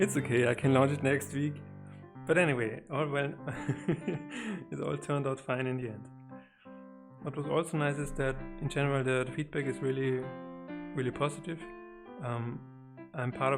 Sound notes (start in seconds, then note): 3.5 laughs